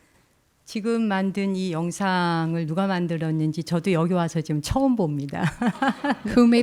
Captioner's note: speaking in Korean; laughs